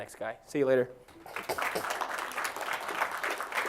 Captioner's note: applause